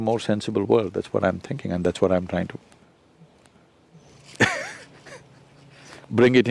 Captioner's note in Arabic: يضحك